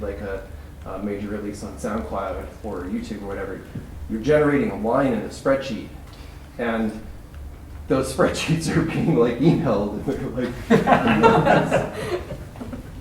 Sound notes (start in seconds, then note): 10.2 laughter